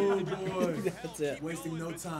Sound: laugh

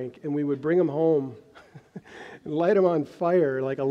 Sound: chuckles

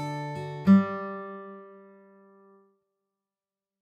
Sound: music stops

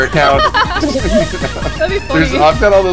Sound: laughs

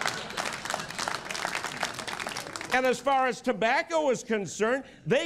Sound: laughter and applause

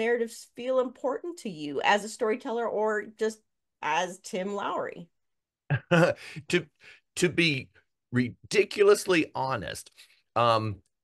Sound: laugh

